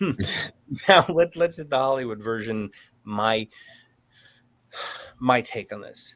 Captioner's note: sighs